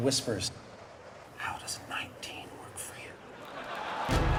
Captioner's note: whispers